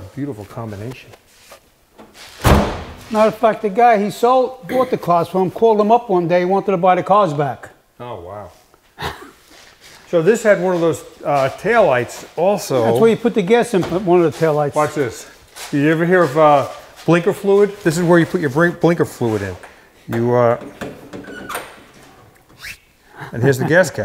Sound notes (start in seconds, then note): 2.4 door thudding; 9.0 laughing